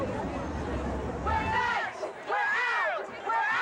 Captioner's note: chant